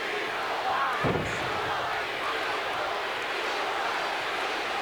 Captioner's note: floor thuds